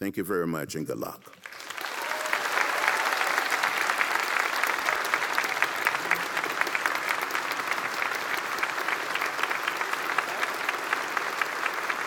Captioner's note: applause